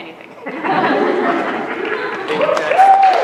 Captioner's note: laughter